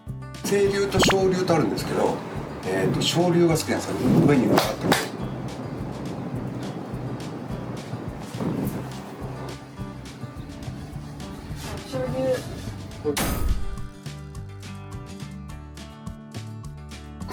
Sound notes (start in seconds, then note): 4.5 clap clap!